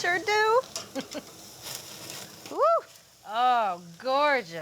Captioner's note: laughs